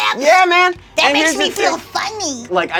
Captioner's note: screeches